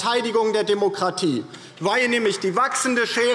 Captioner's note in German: Beifall DIE LINKE